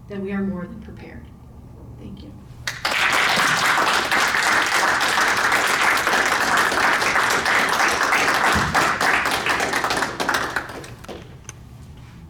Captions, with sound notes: then we are more than prepared. Thank you. (audience applauding)